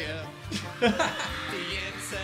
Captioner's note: both laughing